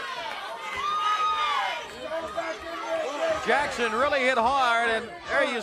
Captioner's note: crowd cheering